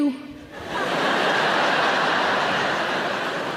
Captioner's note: audience laughs